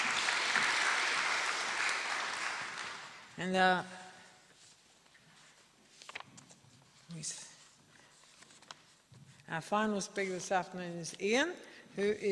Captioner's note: applause